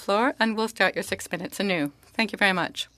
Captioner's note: speaking French